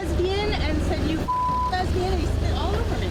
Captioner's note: beep